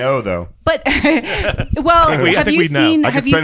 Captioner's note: laughs